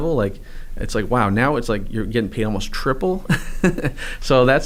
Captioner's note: chuckles